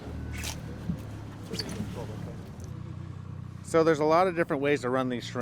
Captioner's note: boat engine idling